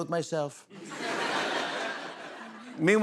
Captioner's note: laughter